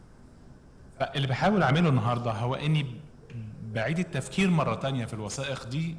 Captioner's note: speaking foreign language